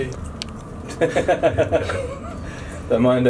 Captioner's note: laughing